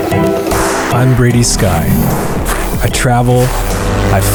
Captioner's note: intense music; voiceover